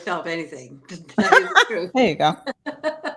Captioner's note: laughs